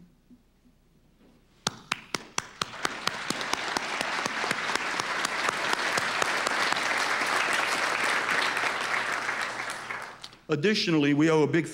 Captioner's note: applause